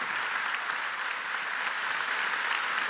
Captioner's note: applause